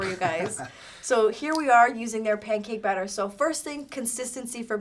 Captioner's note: laughs